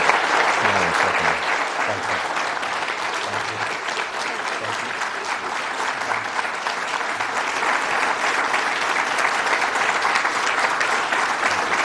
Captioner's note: applause